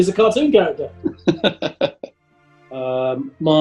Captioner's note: chuckling